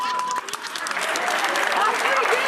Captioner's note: beep; audience applauding